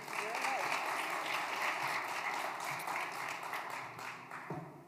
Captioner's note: applause